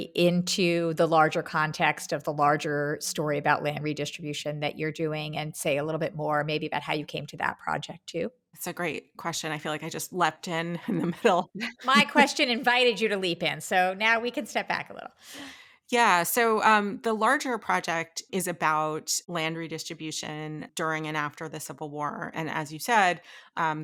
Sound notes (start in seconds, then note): 11.5 laughing